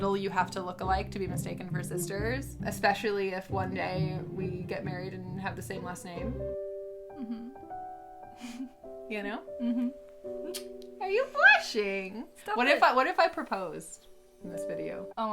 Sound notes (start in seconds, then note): 6.5 light romantic music; 9.6 giggles